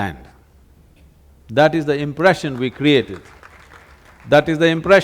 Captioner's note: applause